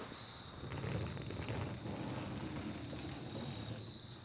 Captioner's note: luggage rolling